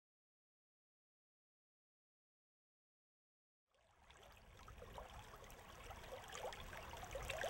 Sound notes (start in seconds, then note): 3.8 water trickling